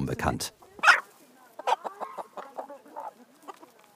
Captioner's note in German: Gackern